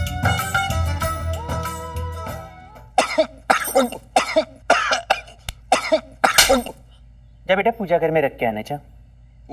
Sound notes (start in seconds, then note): 2.9 Coughing; 6.3 Slaps